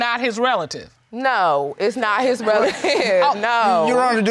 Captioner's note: crowd laughing